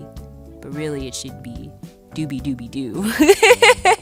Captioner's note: laughing